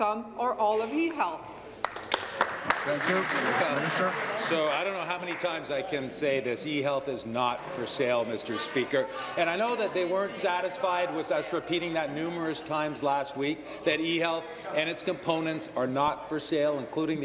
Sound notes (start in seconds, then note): 4.8 applause